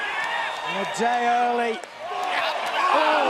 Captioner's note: crowd chatter